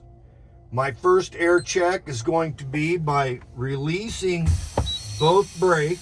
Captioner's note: air releases